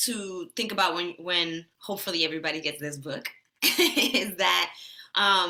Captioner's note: laughs